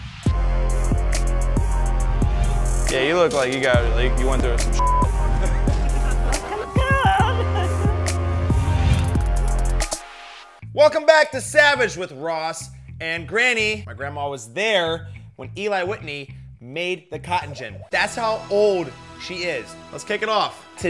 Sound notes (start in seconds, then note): 0.2 hiphop music; 4.8 beep; 7.2 granny laughing